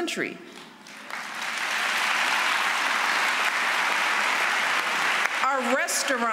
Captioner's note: applause